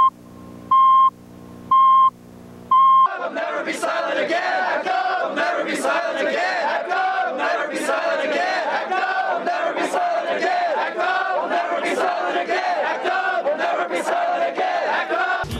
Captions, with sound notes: [Chanting] We’ll Never Be Silent Again! Act Up!